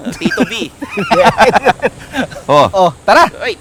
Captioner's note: both laugh